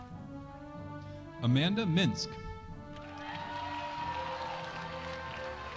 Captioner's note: audience applauding